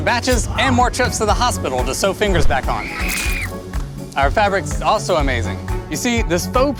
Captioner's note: screams